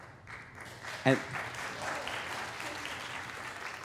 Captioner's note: applause